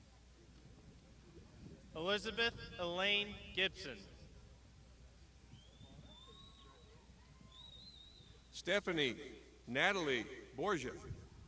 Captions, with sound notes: - Elizabeth Elaine Gibson. (crowd shouting) - Stephanie Natalie Borgia.